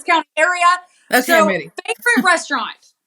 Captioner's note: laugh